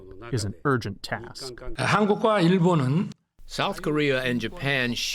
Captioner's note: through translator